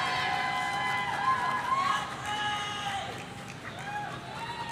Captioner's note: person shouting